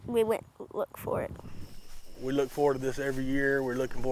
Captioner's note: crickets chirp